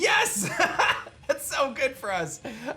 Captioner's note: laughs